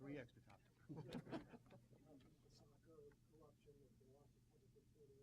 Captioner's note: chuckling